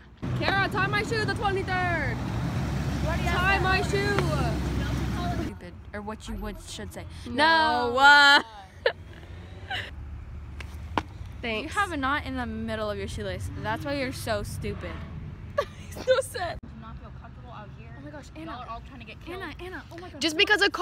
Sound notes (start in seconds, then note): 9.6 chuckles; 15.5 laughing